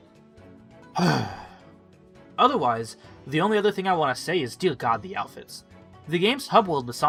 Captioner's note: exhale